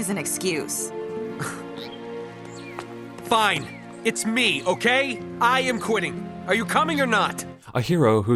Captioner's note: scoffs